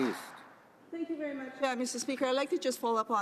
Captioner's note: applause